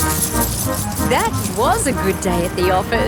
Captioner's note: coins jingling